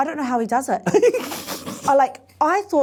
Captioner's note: laughs